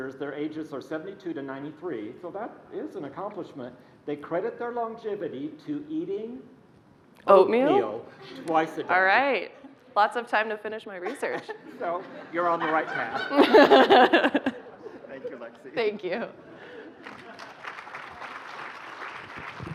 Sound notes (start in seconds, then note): 12.6 laughing; 17.0 applause